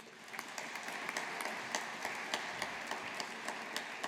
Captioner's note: audience applauding